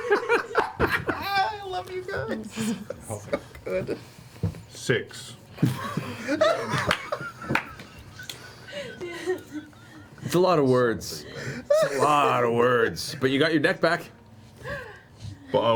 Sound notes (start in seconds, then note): 0.0 laughing; 5.6 all laugh